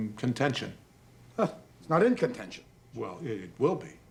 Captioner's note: scoffs